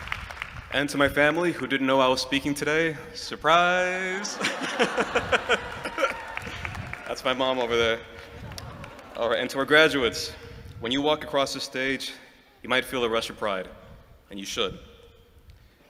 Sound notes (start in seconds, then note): 4.1 laughter